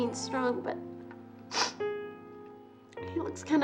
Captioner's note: sighs; sniffs